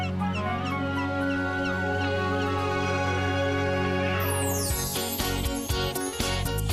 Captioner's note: bird Singing